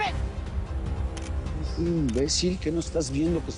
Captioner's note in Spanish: Clic de una cámara